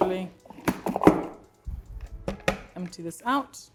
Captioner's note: bowl taps